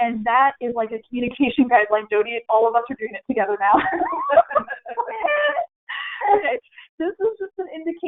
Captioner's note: everyone laughing